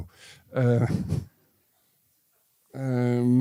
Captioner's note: chuckles